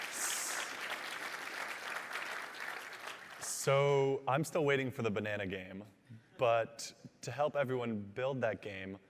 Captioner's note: applause